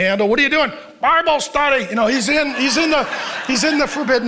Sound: congregation laughing

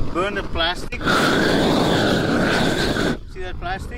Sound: air whooshes against plastic

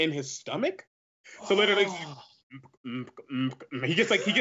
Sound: beatboxes

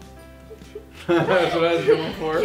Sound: laughs

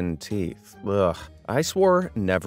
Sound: narrator groans

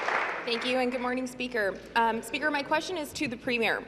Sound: applause

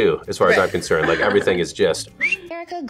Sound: whistles

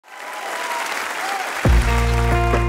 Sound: applause; gentle guitar music

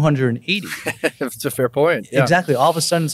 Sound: laughs

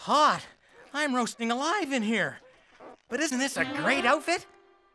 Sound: purring

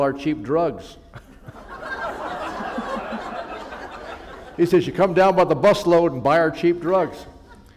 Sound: laughter

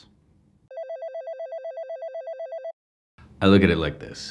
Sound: phone rings

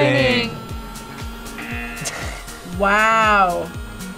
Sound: buzzer rings; laughs

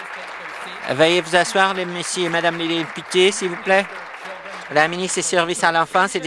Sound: applause

